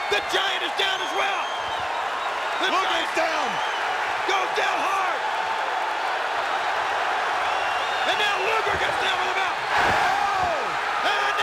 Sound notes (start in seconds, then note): 5.5 audience cheering; 10.1 body thudding